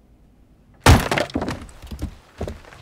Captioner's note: wood splitting; logs clattering